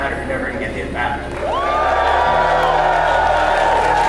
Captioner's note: cheering